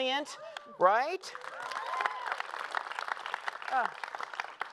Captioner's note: applause